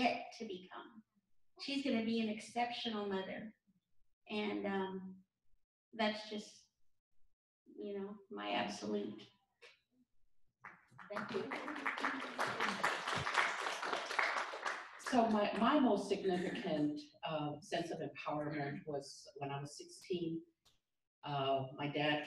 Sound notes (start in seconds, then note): 10.6 applause